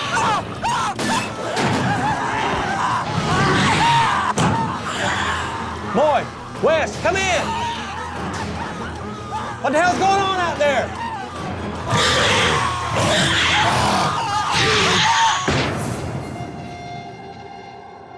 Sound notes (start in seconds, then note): 0.2 indistinct screaming; 11.9 shrieking; 13.9 screaming continues